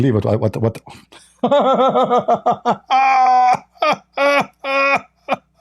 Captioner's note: Ketawa